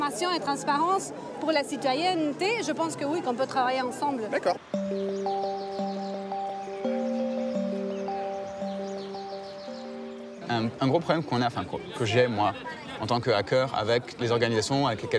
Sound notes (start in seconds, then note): 4.6 gentle electronic music; 10.6 speaking in a foreign language